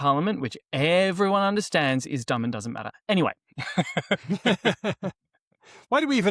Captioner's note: laughter